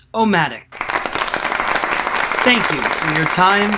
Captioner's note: applause